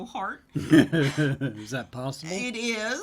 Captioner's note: laughs